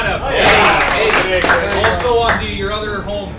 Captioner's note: applause